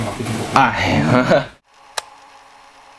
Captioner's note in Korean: 웃음